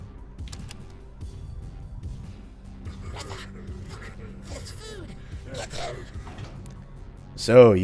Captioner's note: rumble, devious chuckling